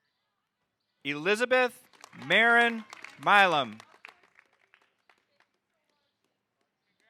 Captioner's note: audience applauding